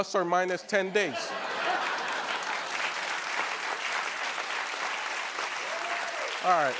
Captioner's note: laughter and applause